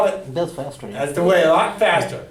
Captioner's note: voiceover